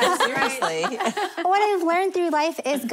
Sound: laughing

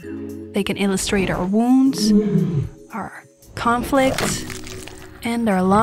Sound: roar; crunch

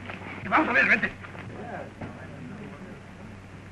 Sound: Spanish spoken audio

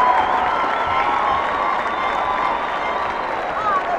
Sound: cheers and applause

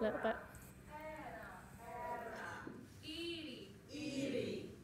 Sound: speaking Punjabi

